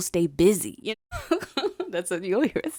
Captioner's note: laughing